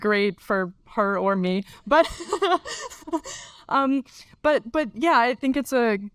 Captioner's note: laughs